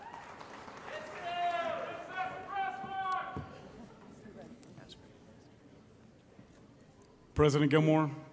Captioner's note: applause & Cheering